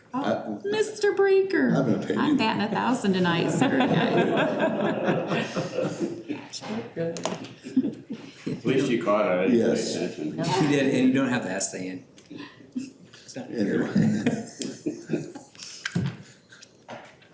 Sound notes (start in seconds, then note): 3.4 laughter